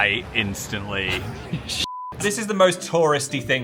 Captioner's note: beep